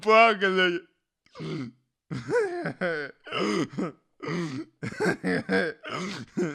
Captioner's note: delighted laughter